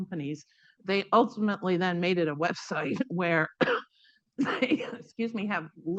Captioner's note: coughs